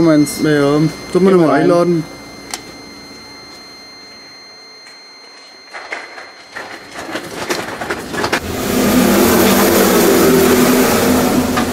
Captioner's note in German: Martinshorn-Sirenen zu hören